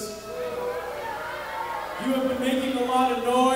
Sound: audience booing

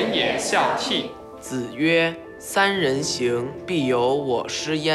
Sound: speaking Chinese

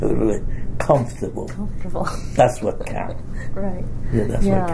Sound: laughs

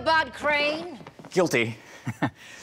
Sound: chuckle

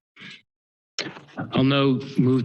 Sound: pause

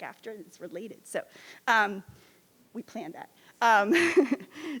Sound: laughs

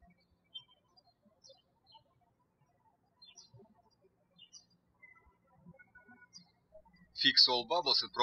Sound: birds chirping

